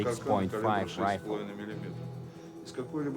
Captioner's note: speaks in foreign language